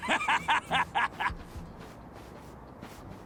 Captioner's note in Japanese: 笑い